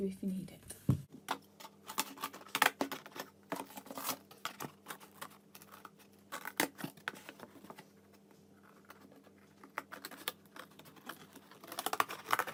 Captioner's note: cutting sounds